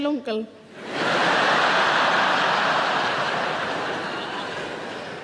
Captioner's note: audience laughing